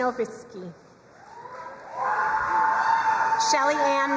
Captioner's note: crowd cheering and applauding